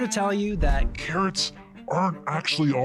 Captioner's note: voice distorted